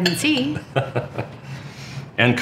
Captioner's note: chuckles